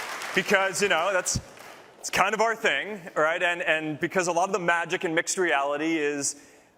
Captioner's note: cheers and applause